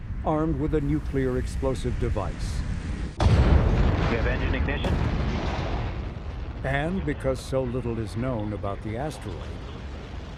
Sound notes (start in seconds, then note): 3.3 rockets blasting